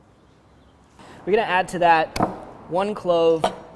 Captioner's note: knife banging